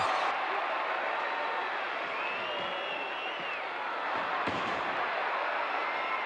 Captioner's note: wrestlers thudding; audience cheering